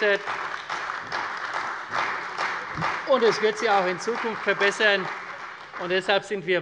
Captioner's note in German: Beifall bei der CDU und dem BÜNDNIS 90/DIE GRÜNEN